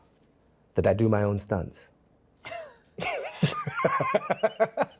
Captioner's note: both laughing